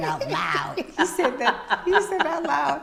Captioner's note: laughing